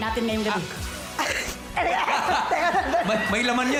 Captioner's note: coughs; robi laughs